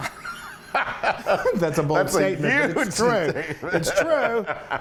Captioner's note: laugh